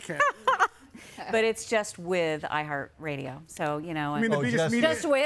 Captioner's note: laughing